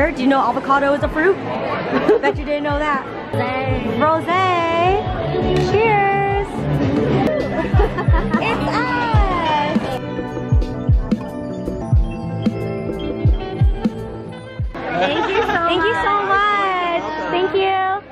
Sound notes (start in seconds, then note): 7.1 laughing; 13.1 upbeat music